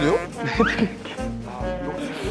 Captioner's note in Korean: ㅋㅋ